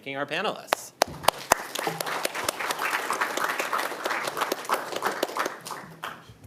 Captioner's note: audience and participants applauding